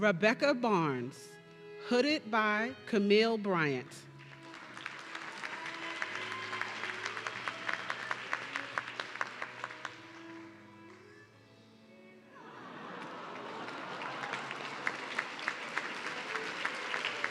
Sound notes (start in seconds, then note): 4.8 audience cheering; 12.4 audience laughing and clapping